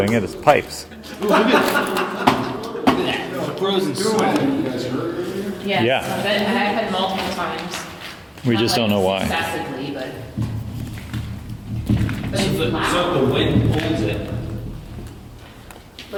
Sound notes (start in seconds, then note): 0.8 laughter; 10.0 thudding